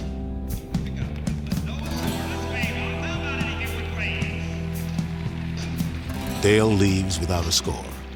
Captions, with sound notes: [loudspeaker announces no score] Dale leaves without a score.